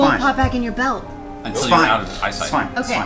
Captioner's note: gasps